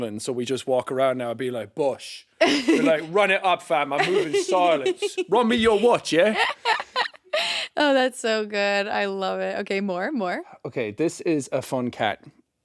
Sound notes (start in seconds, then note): 5.6 chuckling